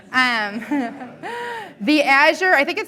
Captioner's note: laughing